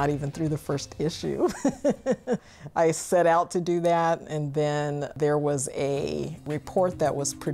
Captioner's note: laugh